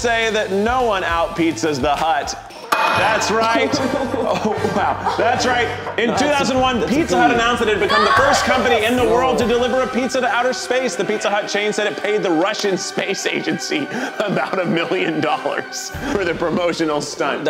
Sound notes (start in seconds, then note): 2.7 glass clanks